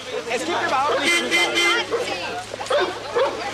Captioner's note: car horn